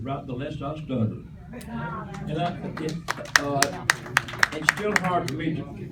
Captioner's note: applause